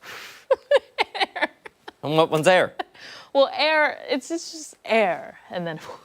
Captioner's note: laughter